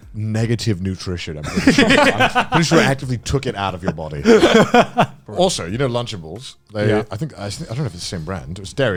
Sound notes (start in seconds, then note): 3.5 men laugh